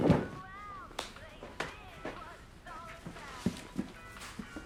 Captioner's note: hands smacking